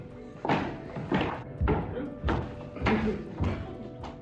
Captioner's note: feet stomping